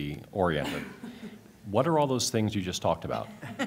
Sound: laughter

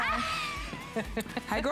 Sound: laughter

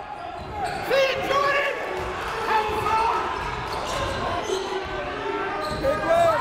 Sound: crowd talking; coaches yelling

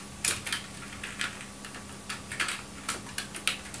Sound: typing; typing

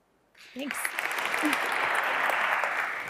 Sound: applause

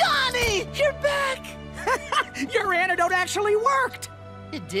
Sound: chuckles

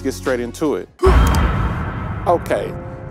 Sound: air whooshes

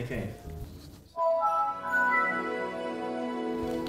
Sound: chime plays

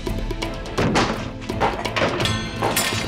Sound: kick landing

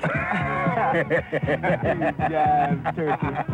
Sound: laughing

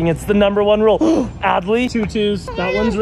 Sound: gasps

